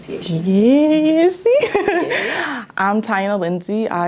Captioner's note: laughs